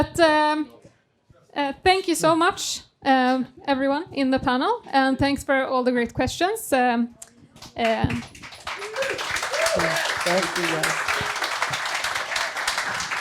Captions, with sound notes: But thank you so much everyone in the panel and thanks for all the great questions. (audience applauding)